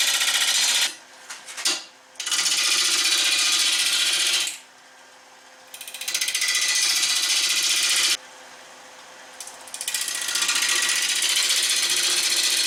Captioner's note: noise of woodturning lathe and woodturning